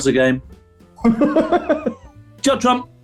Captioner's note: laughing